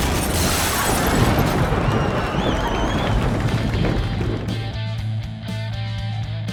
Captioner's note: glass shattering; thunder cracking; audience cheers; rock music